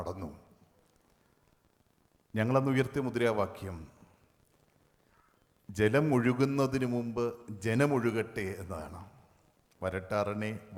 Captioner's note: Speaks in Malayalam – not transcribed